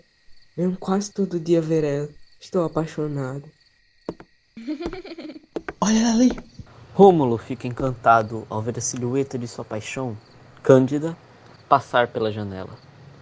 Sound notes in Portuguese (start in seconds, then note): 4.6 Passos e risada feminina; 5.8 sussurro